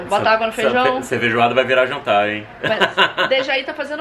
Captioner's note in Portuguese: risos